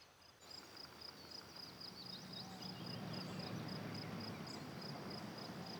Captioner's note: vehicle approaching